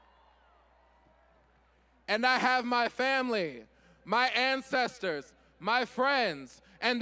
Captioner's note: cheers and applause